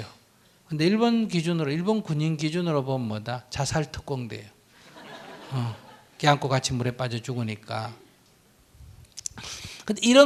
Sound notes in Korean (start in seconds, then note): 4.8 청중 웃음